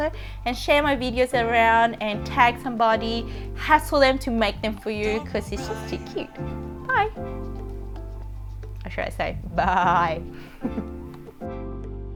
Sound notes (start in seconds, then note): 10.6 laughs